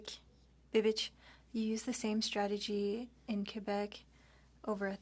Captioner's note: speaking French